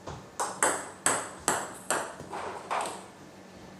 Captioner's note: balls ping pong hitting